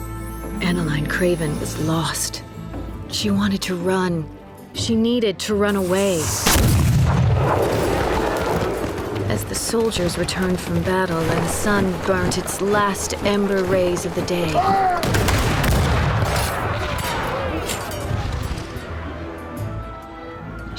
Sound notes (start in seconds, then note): 6.2 cannon blast; 14.9 gunfire